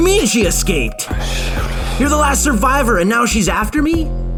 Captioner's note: murmer; murmur